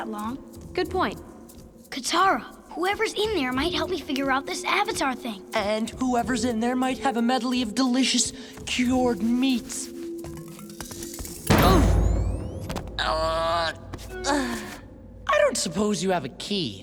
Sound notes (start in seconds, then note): 11.4 thudding; 12.9 groaning